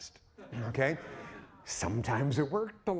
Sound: audience laughing

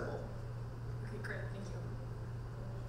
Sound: voiceover

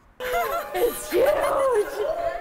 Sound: laughter

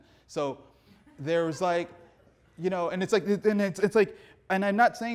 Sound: audience laughing

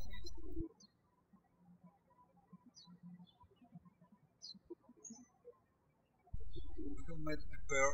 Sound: birds chirping

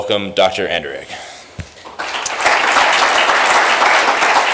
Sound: applause

